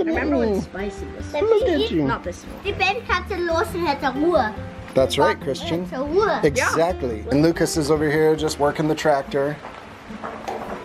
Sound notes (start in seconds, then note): 3.2 speaking in foreign language